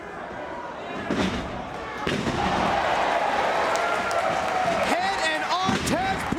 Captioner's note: applause